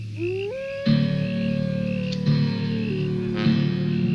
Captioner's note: wolf howling